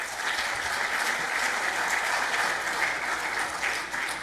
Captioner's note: applauses